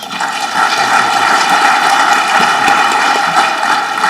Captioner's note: audience clapping